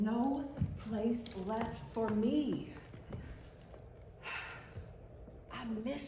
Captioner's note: sighs